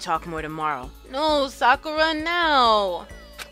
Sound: whining

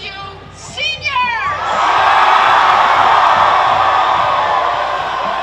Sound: crowd cheers

